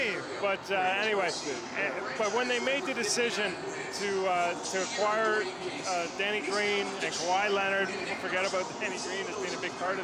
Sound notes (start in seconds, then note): none